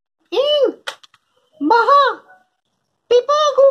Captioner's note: imitating a girl's voice